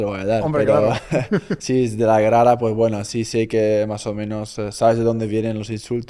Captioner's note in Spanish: risas